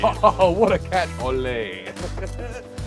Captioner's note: laughs